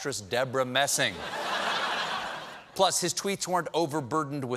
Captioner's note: laughter